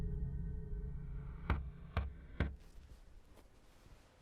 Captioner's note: knocking